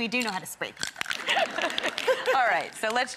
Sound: audience laughs

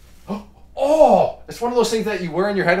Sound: gasps

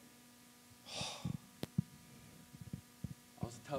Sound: sighs

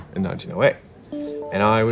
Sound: phone alerting

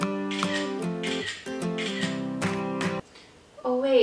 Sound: camera snapping

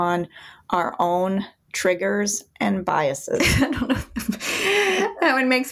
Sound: laughs

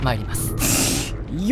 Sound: snorting

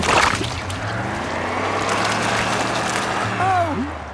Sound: sloshing, tires whirring

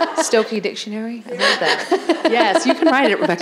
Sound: laughing

